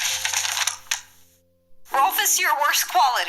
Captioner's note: paper rustling